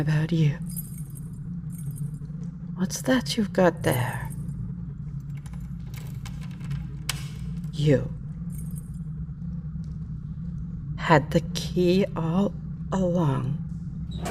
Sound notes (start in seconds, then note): 4.7 A key turning in the lock. The clunk of the lock cracking open; 10.4 cell door opens, footsteps